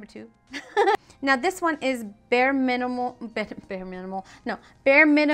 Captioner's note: laughing